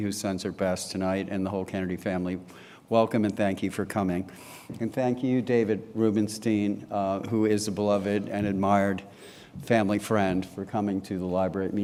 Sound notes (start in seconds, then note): none